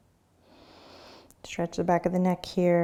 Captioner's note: inhaling